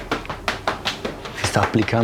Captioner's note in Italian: rumore di pacche